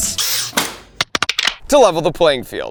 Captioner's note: objects clacking